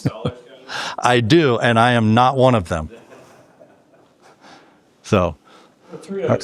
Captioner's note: laughing